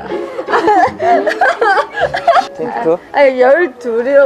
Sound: laughing out loud

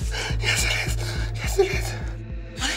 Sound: sobbing

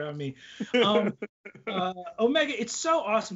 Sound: laughs

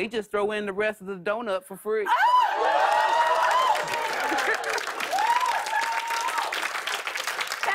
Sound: cheers and applause

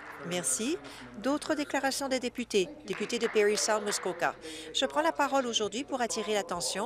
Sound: some Applause

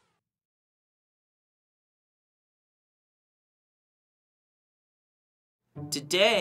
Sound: silence

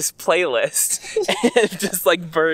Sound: laughter

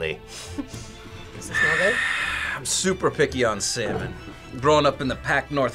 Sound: sniffs; laughs

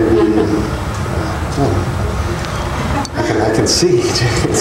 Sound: laughing

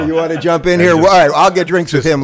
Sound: laughs in background

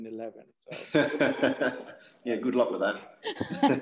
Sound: laugh; laugh

